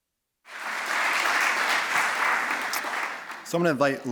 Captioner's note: applause